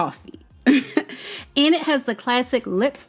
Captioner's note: chuckling